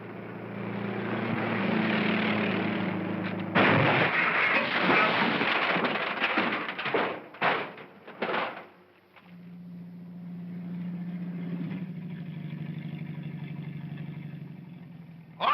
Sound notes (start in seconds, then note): 0.0 car rumbles past; 3.5 loud crash; 6.4 metal clattering; 8.8 car rumbling